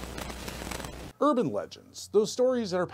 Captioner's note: fire crackling